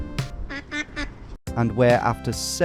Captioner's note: duck quacks